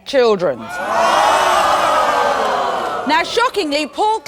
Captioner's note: audience gasping